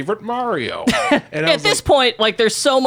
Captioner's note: laughs